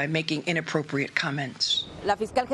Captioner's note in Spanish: HABLAN EN INGLéS